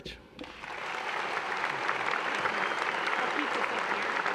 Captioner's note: applause